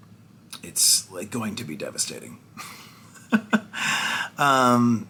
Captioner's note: laughs